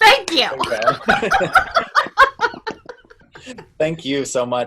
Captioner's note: laughs